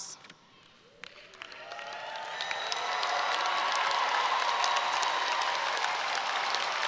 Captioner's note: audience cheering and applauding